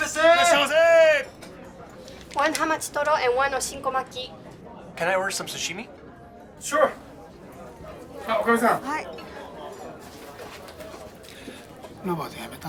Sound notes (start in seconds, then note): 0.2 shouting in japanese; 8.9 speaks japanese